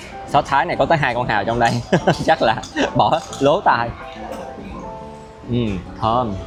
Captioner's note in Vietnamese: tiếng cười